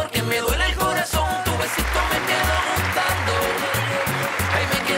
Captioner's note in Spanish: Aplausos